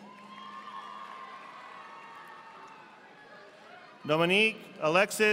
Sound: audience applauding

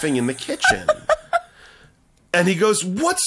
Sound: laughing

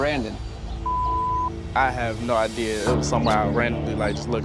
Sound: beep

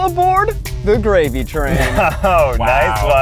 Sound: laughs

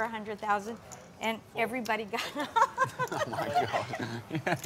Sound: laughs

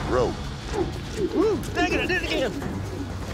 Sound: ropes swirling through air

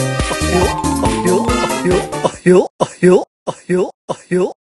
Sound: laugh

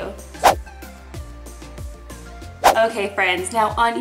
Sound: upbeat music; whooshing

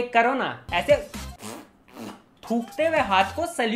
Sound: spits

